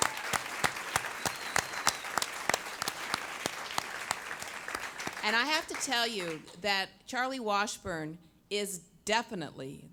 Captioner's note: applause